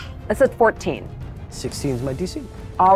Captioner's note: none